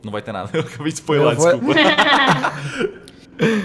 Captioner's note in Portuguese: Risos